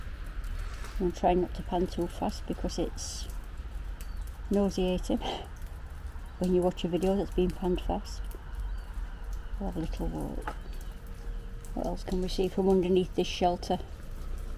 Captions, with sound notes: I'm trying not to pan too fast because it's.. nauseating [scoffs] when you watch a video that's been panned fast. We'll have a little walk.. What else can we see from underneath this shelter?